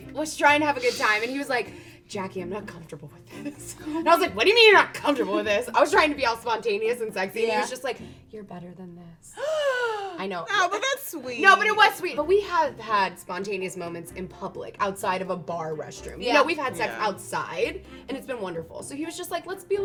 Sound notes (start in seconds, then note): 9.3 gasps